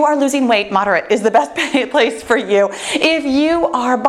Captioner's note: laughs